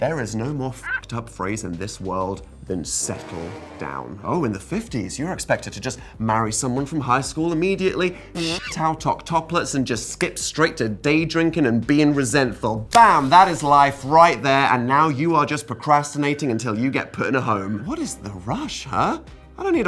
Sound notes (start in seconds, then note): 8.3 monkeys screaming